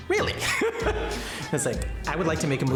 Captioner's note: laughing